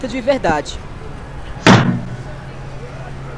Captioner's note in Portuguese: Batida na mesa